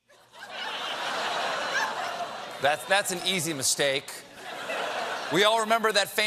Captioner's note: laughter